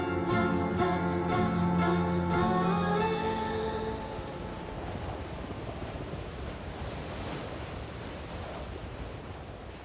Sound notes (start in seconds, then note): 4.1 wind blowing, waves crashing